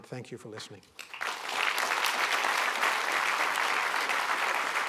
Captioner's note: applause